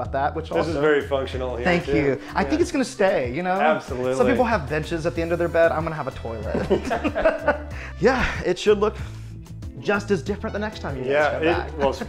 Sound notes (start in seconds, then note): 6.3 laugh; 7.6 sighs